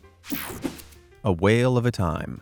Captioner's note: air whooshing